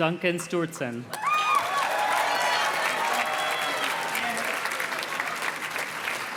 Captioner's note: audience cheers and claps